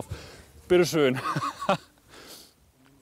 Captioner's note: laughing